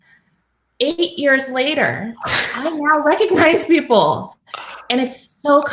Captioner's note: laugh